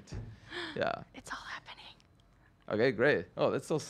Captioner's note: gasps